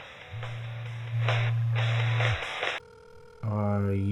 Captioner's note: cell phone ringing